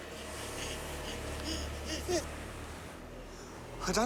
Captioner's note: gasping